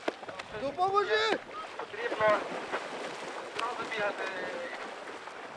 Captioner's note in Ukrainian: Сплески води